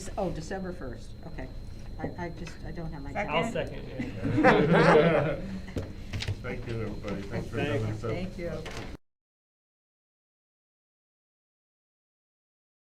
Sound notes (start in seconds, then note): 3.4 laughing